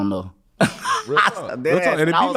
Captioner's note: laughing